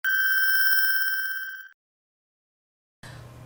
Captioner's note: high pitched ringing